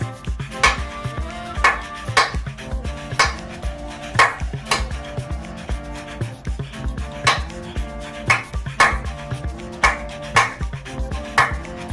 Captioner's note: clapping to the beat